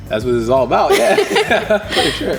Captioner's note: laughing